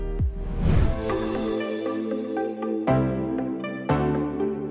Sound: swooshing noise followed by music

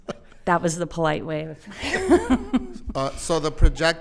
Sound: laughs

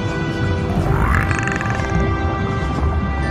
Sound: Pyrasces clicking noises

